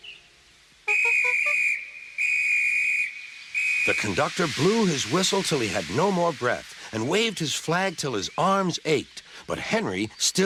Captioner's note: Guard blows his whistle several times